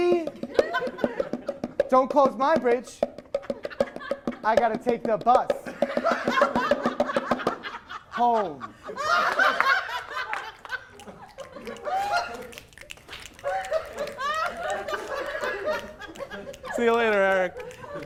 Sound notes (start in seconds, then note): 0.4 more laughter; 9.1 applause immediately stopped with snapping; 9.1 audience dying even more